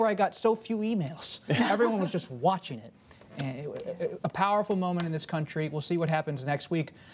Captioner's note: laughter